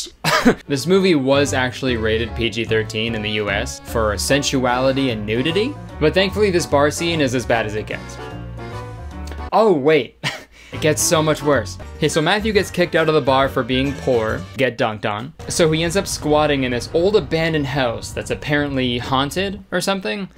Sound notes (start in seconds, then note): 0.2 chuckles; 8.5 light music; 10.1 laughs